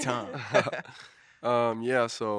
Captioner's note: all laughing